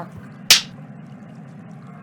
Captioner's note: clapper sound